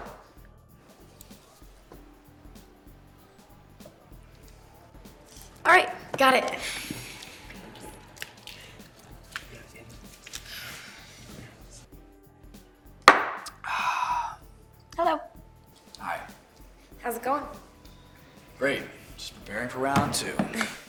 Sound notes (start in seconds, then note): 13.0 shot glass thuds; 13.6 Byron exhales sharply